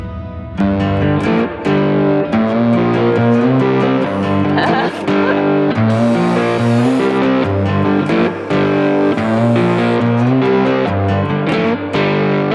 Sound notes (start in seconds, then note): 1.1 upbeat music; 4.1 laughs; 6.3 drill whirring